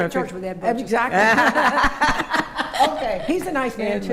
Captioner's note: laughing